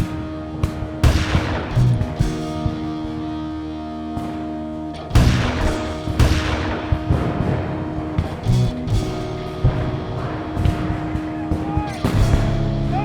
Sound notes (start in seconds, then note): 0.0 guns fire; 5.1 gun fires; 10.7 guns fire